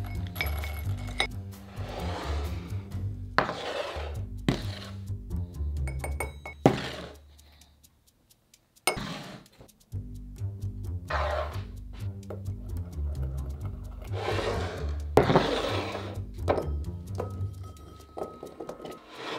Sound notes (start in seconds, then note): 16.4 beans dropping